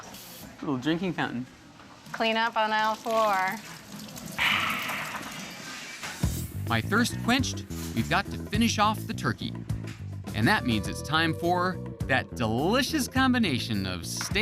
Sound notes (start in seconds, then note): 4.4 satisfied sigh